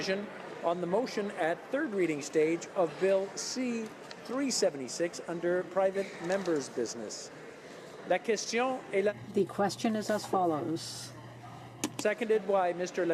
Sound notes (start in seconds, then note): 11.6 speaking in french